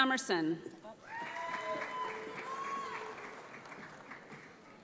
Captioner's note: audience applauds